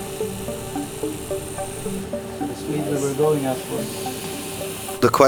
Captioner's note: watches whirs